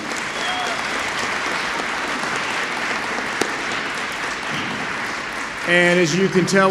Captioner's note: applause